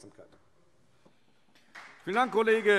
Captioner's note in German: Beifall Freie Demokraten